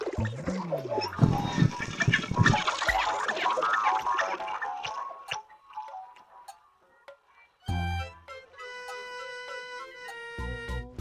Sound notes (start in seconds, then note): 1.9 gloinks boinging, squeaking